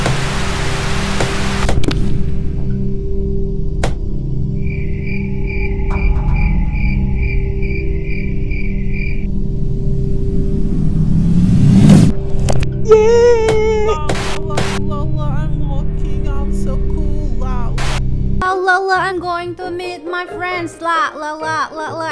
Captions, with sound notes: [the crickets are chirping ominously] [girl singing] ...yaaaa lalalala I'm walking I'm so cool wow lala lalala I'm going to meet my friends lalalala